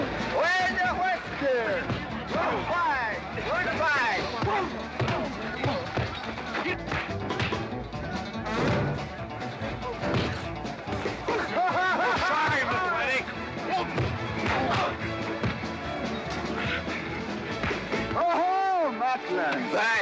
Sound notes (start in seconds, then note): 4.3 sounds of scuffling & fighting; 4.3 western fight music